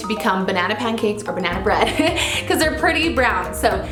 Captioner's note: laughs